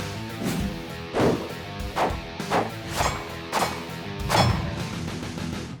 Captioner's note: gun shots; rock music plays